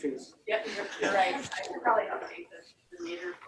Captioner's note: laughter